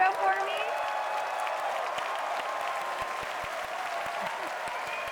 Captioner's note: applause